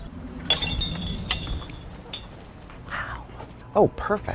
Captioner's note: door bells clinking